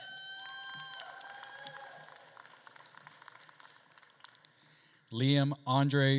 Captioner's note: attendees cheering and applauding